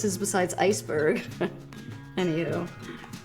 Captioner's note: laughing